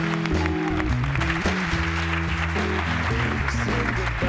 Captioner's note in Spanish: aplausos